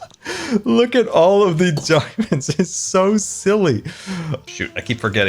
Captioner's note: laughs